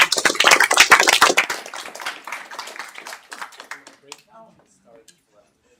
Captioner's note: applause